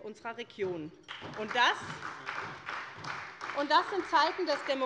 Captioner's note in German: Beifall bei der SPD